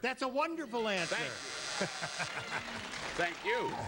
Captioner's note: buzzer